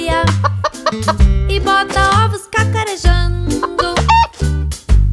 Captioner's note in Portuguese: som de galinhazinha; som de galinha